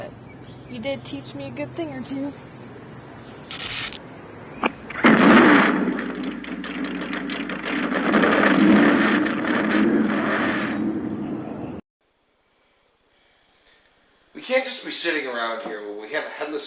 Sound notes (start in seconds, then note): 3.5 sparks, ignition; 4.2 engine starts; 8.3 engine revs